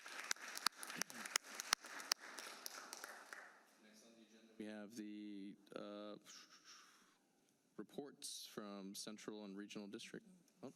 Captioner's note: applause